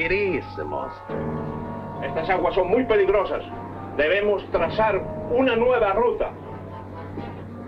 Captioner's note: General Tostada speaking in Spanish